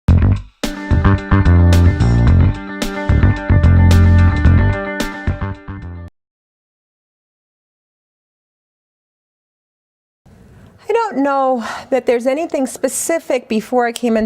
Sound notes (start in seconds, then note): 5.0 silence